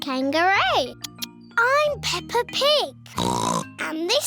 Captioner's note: oinks